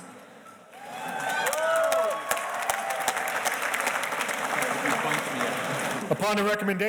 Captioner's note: audience cheers and applauds